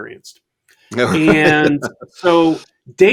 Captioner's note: laughs